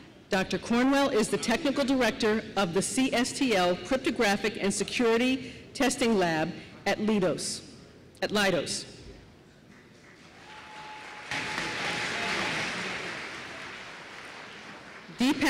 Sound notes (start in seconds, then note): 9.7 applause